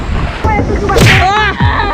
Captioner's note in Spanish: golpe